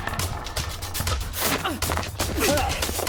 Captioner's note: yells; Nick groans